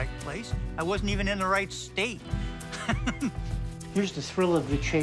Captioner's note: laughs